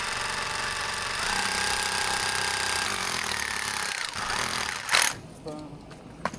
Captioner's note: motor whirring